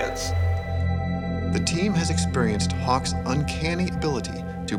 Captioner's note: voiceover